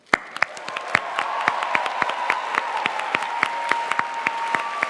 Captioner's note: audience applauding